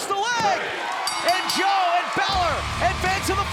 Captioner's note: bell ringing